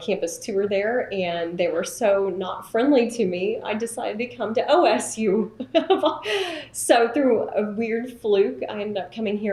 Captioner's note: laughs